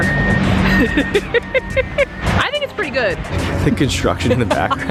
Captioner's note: laughs